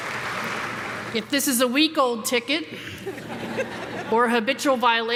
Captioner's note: everyone laughing